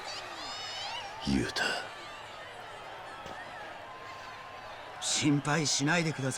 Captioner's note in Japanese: 大歓声